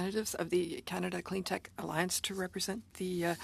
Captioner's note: speaking French